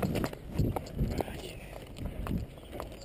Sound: whispers

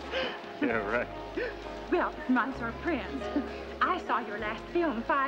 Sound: chuckles

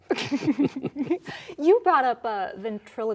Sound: laughter

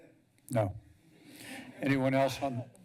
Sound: background conversations

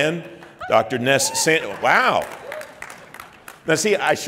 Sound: applauding

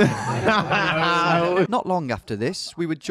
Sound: laughing

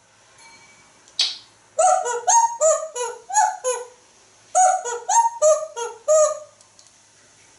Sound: whistles a tune

